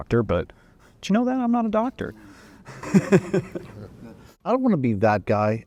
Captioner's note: laughs